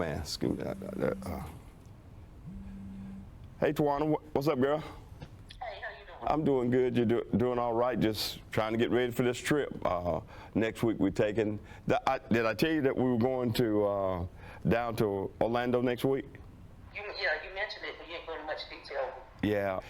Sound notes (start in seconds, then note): 2.4 phone buzzing